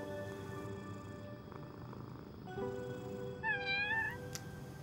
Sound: cat purring; cat mewing

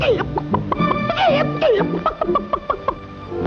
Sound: clucks

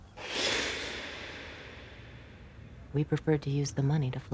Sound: air blowing

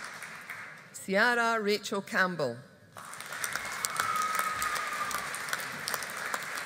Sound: audience applauding

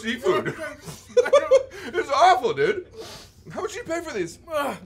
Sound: laughs

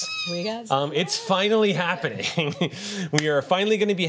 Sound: laughs

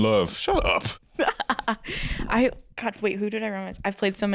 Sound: laughing

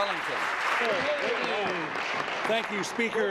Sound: applause

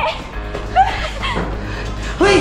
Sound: gasping

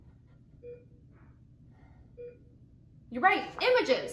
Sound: beeping

